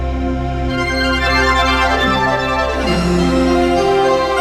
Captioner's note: whooshing